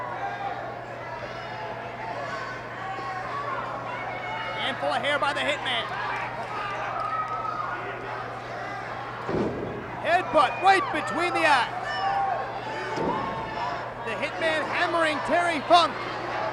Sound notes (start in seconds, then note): 0.7 applause; 12.3 applause